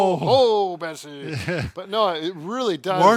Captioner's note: laughing